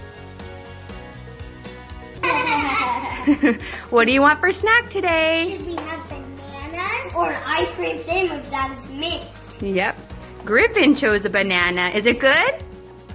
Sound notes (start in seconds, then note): 2.2 all laughing